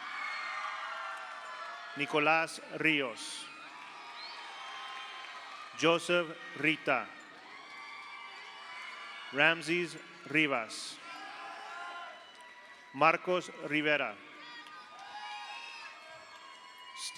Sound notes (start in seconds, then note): 0.0 audience applauds; 0.1 audience cheers; 3.2 audience applauds; 3.5 audience cheers; 7.3 audience applauds; 7.3 audience cheers; 11.0 audience cheers; 11.0 audience applauds; 14.5 audience cheers